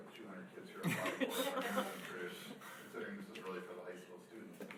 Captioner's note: laughing